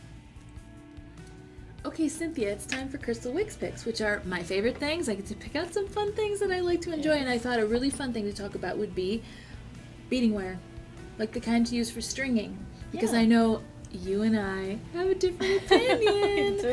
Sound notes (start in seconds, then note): 15.4 laughs